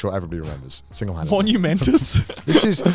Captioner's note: laughing